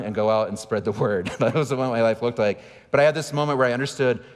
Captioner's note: laughing